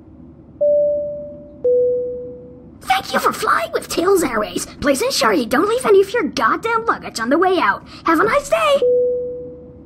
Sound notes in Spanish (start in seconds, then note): 2.9 intercomunicador de avión